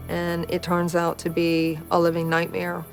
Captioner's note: Jamie sighs